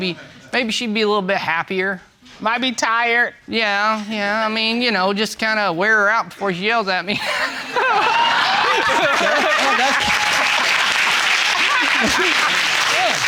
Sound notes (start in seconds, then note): 7.2 all laughing; 10.8 audience applauding; 12.0 both laughing